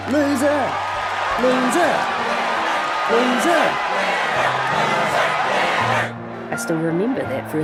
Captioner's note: crowd chanting; narrating